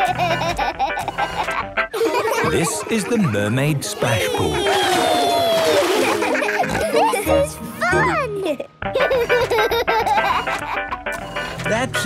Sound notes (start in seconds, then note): 0.0 upbeat music; 0.3 giggling; 5.8 giggles, snorts; 8.9 giggling; 11.0 music fades